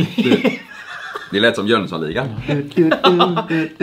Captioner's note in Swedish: skratt